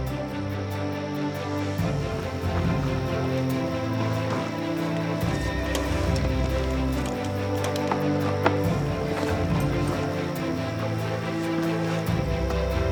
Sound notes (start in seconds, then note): 5.3 horse whinnying